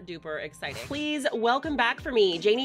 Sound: whooshing

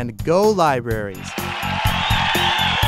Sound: cheer

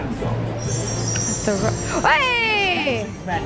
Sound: magic noise

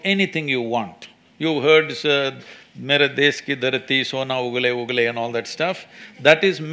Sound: speaks in Hindi – not transcribed

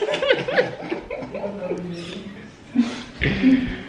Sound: giggles

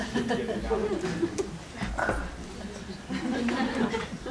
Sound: laughter

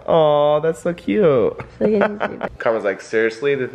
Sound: laughs

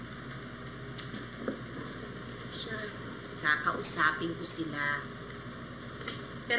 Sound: clicks tongue

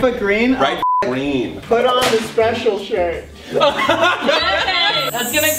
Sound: laughs

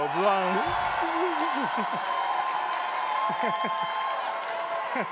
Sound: attendees applauding and cheering

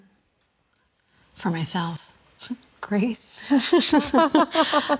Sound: laughs

